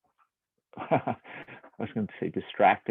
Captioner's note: laughs